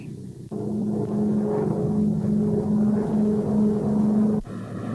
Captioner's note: plane engine roaring